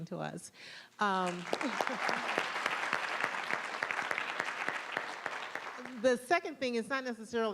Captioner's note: applause